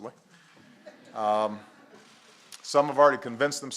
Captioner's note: laughter